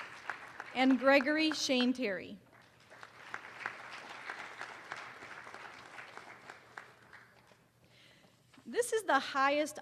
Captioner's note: applause; applause